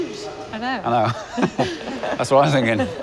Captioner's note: laughs